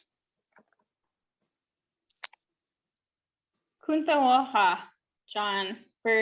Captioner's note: speaking in Native Language